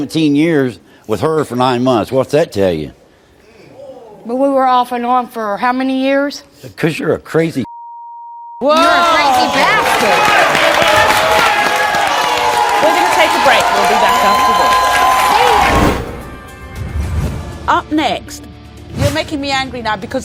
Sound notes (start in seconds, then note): 7.7 beeps; 10.2 audience cheers and applauds; 12.7 audience cheers and applauds